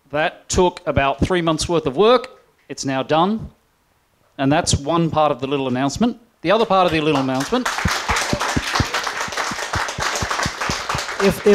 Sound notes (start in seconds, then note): 6.6 applause